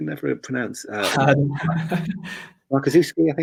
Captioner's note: laughs